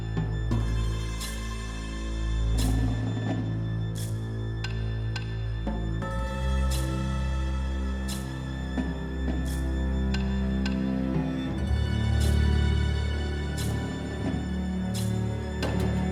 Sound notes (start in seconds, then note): none